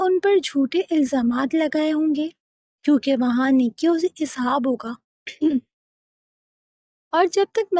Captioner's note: clears throat